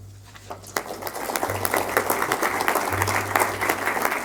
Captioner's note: audience applauding